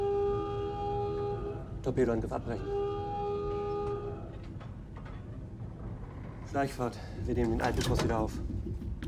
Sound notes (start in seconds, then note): 1.9 speaking in foreign language